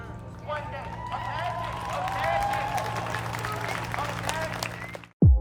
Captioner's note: crowd cheering